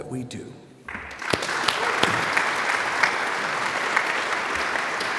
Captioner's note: audience applauds